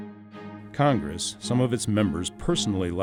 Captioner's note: voiceover